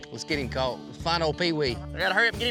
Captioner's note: none